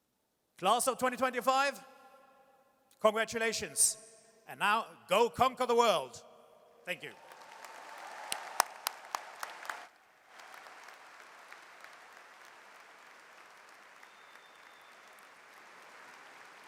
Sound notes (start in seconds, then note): 7.1 audience cheers and applauds